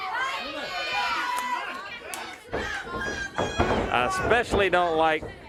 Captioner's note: crowd chatter